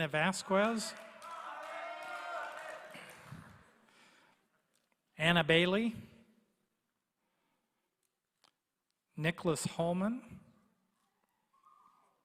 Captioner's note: applause